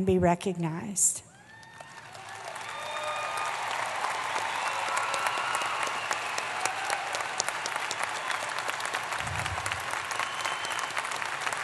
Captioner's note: applause